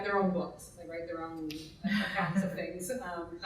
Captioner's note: laughing drowns out speaking